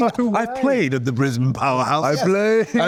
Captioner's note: using accent